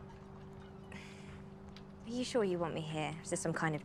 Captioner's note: sighs